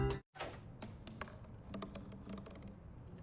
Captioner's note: clank, thump, thump